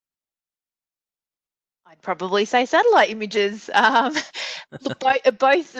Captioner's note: laughs